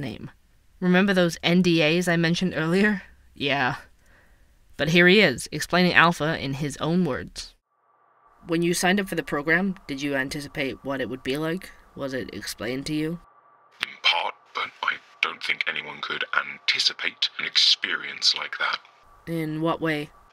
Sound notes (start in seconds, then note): 7.6 phone call